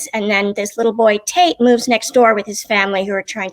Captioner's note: none